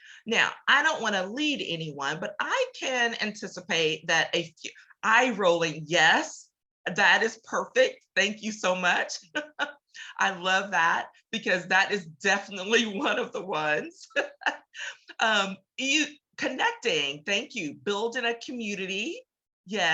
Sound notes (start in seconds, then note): 13.9 laughs